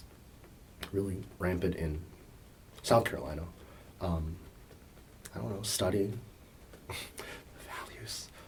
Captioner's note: whispers